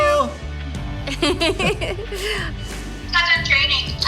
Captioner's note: laughing